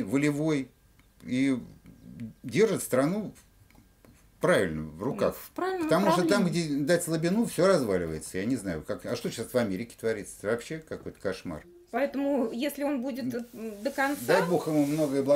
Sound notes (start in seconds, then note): 3.5 speaking russian